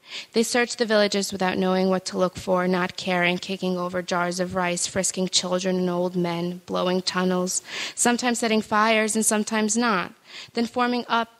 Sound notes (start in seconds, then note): none